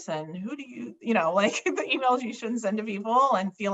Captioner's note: chuckles